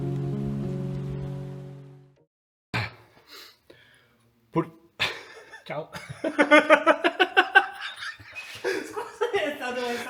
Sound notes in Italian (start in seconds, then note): 5.9 risate